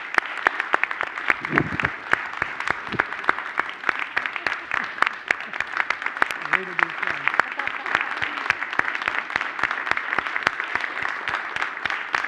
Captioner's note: applause